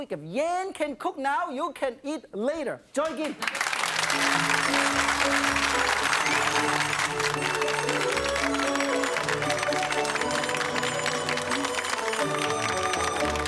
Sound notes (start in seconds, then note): 3.4 audience applauding; 6.8 joyful music